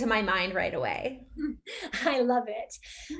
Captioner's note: laughing